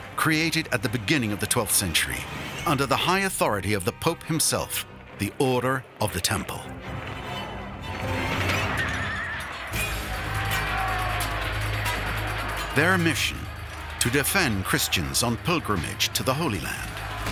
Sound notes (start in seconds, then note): 9.0 horses neighing; 9.5 men shouting